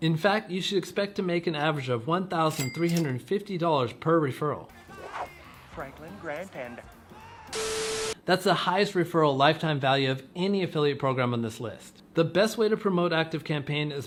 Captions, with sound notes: In fact you should expect to make an average of $1,350 per referral. (funky music) - Franklin, Grant and. (static buzzing) - That's the highest referral lifetime value of any affiliate program on this list. The best way to promote ActiveCampaign